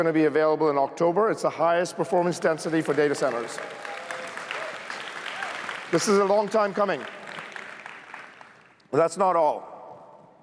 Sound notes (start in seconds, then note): 2.5 cheers, applause